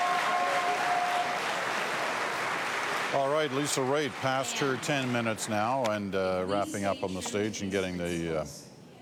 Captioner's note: cheering and Applause